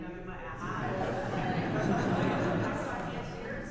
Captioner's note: audience laughs